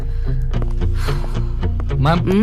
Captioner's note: sighs